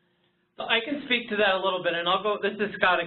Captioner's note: voiceover